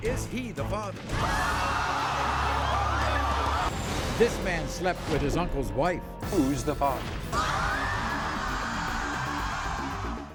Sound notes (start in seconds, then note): 1.1 crowd screaming; 7.6 crowd gasping